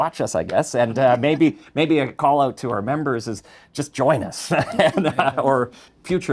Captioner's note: laughs